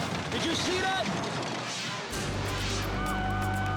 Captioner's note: air whooshes; siren blaring